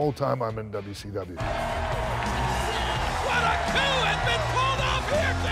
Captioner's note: applause